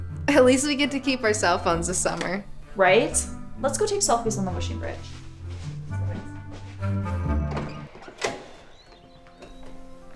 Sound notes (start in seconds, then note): 6.0 girls faintly chattering; 7.6 birds chirping; 8.7 soft music